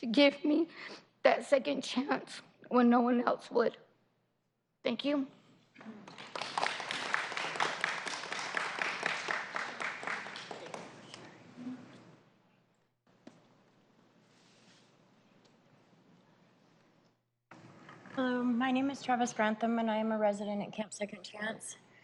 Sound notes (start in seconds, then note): 10.3 applause